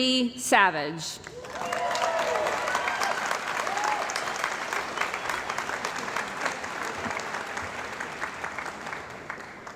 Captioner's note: cheering & Applause